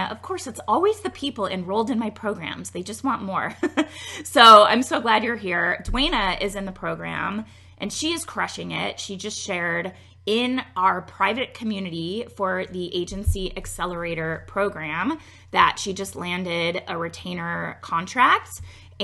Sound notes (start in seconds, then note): 3.5 laughs